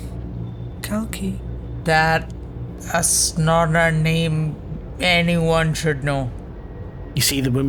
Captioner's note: whisper